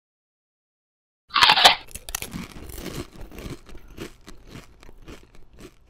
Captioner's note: bite sound; munching; swallows